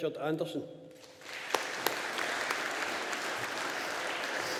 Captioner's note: audience applauding